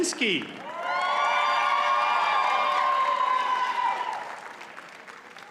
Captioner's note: audience cheers and applauds